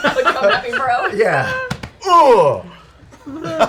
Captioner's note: grunts